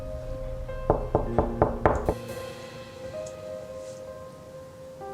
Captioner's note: person knocking